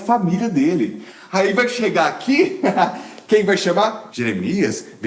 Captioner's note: laugh